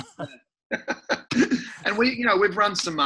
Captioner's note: laughs